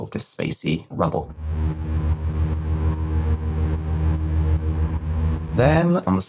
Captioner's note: pulsing, spacey rumble